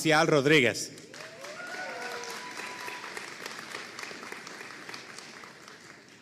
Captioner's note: audience cheering and applauding